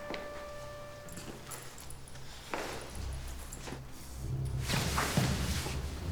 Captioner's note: footsteps plodding; ominous music